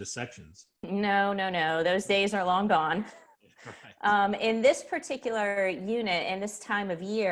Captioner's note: laughs